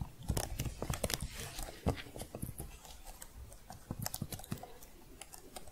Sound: typing sounds

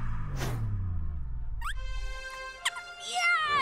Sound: squeaks

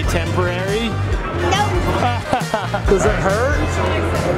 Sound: laughs

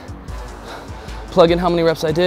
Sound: heavy breathing

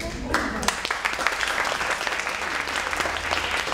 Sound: applause

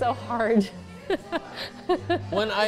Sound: laughs

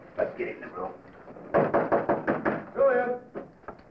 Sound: knocking

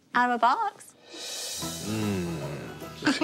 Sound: growls; laughs

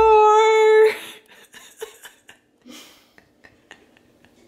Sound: giggles

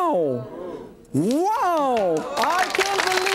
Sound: audience clapping

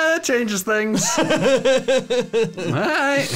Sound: laughing

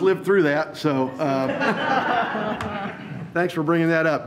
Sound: all laugh

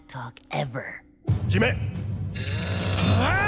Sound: speaking foreign language; grunting

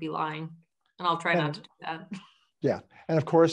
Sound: chuckles

